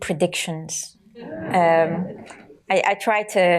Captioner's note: audience laughter